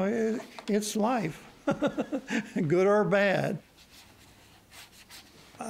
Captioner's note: chuckles